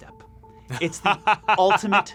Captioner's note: laughs